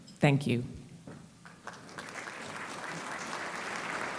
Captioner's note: applauding